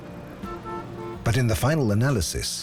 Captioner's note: car horn honks